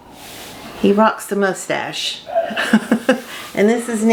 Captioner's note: chuckles